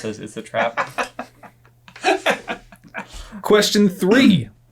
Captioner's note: laughing